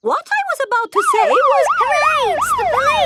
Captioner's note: siren wailing